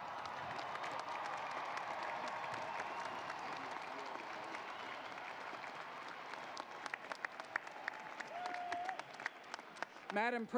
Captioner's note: applause